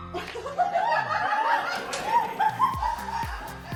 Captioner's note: screaming; laughing